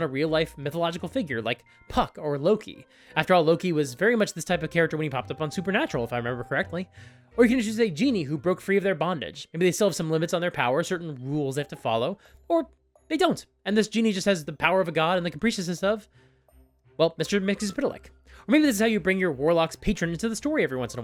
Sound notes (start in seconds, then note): none